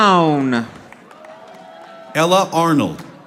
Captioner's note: audience applauding